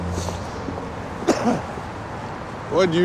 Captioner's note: coughs